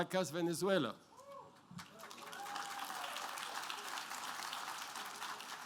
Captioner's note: applause